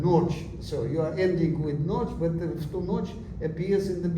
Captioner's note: non-english